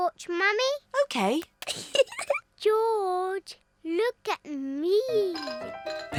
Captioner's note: giggles